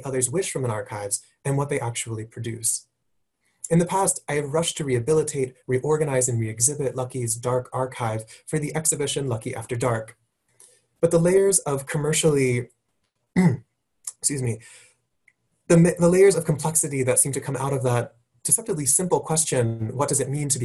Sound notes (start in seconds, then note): 13.4 cough